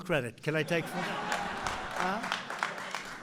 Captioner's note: laughter and applause